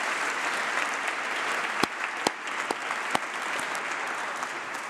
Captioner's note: applause